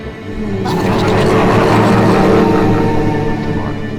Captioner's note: the monsters cheer